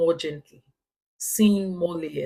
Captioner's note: paause